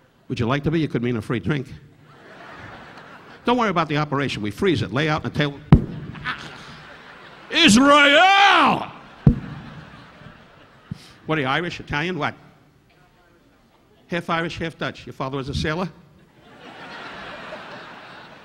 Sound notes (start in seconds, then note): 2.1 audience laughing; 5.7 Don thudding on mic; 6.1 Don gasping; 8.6 audience laughing; 9.2 Don thudding on mic; 16.4 audience laughing